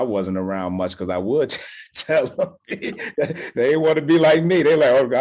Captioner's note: laughs